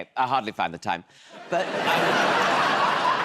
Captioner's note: laughter